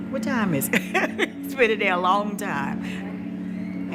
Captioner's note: laughs